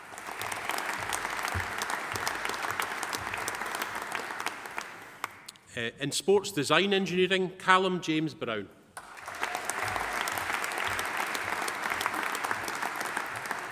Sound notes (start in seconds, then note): 0.0 audience applauding; 9.0 audience applauding